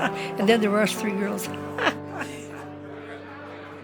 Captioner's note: laughs